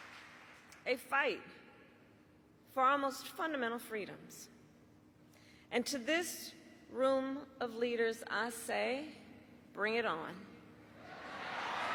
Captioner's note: cheering